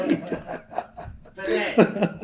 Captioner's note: laughter